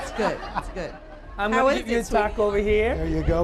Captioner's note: laughter